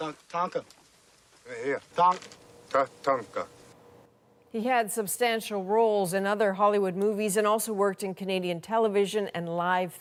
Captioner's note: speaking Alternate Language